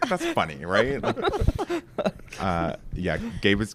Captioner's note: laughs